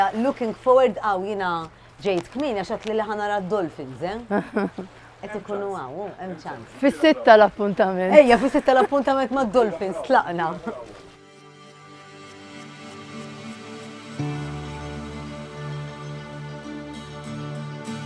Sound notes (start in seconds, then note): 4.2 laughs; 12.1 mellow ambient music